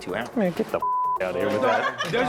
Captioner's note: beep; everyone laughing